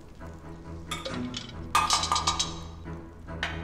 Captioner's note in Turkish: Kaşık- Çanak Sesi